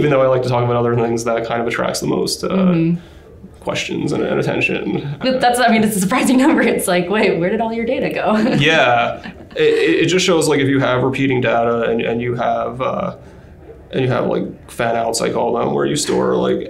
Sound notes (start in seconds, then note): 0.0 chuckles; 4.7 laughs